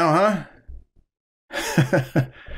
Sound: chuckles

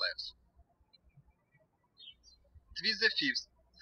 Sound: birds chirping

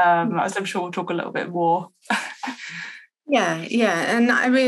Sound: laughs

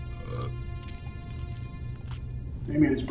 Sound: Max belches

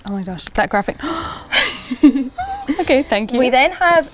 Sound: gasping; laughing

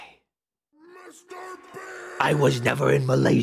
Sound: quiet "Mr. Beast" meme scream

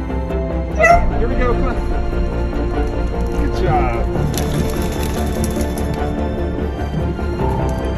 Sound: Oliver barks

